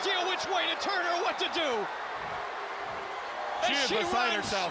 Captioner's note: crowd cheering